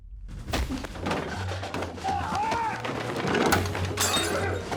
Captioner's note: yelling & shattering of glass